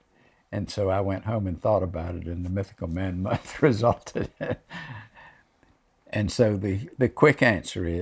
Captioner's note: laughs